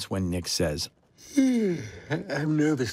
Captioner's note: yawns